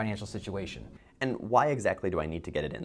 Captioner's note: voiceover